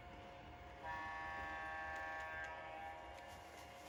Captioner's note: the train horns into the sunset